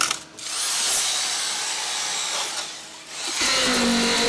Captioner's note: machine revving